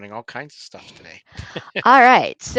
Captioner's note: chuckling